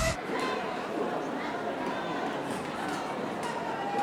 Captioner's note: audience chattering